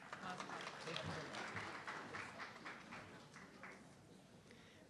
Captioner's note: audience clapping